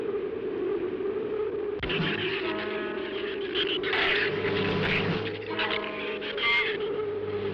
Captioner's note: shrews chattering